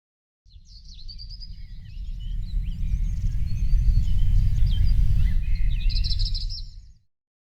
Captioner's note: birds chirping